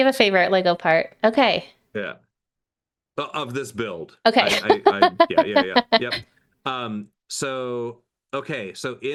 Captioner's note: laughing